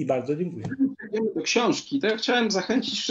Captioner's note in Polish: zakłócenie